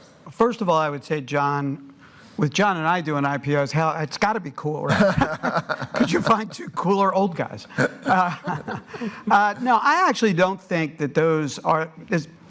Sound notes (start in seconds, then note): 4.9 laughing